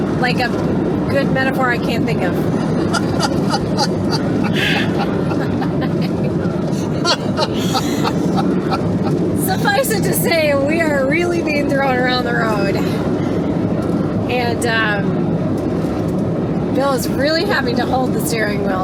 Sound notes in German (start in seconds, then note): 2.6 Gelächter